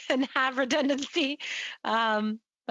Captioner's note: laughter